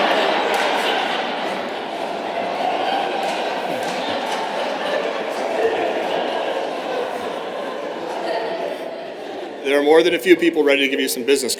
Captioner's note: laughter